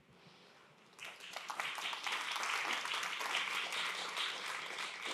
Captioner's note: applause